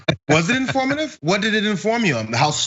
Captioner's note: laugh